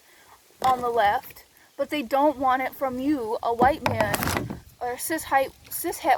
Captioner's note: banging noise